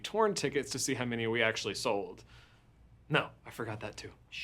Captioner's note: none